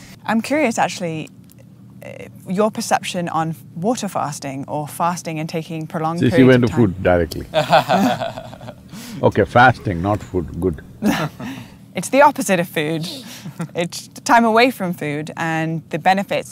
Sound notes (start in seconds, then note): 6.2 laughs